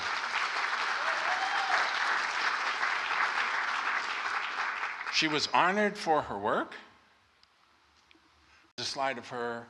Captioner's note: applause